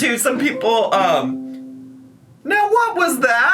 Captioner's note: soft chiming